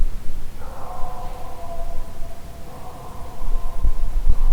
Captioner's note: animals howling